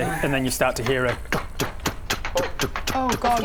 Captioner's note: tuk tuk tuk tuk tuk tuk